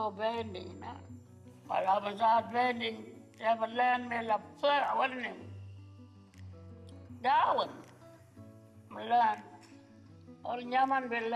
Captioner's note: speaks foreign language